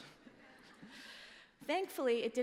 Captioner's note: laughter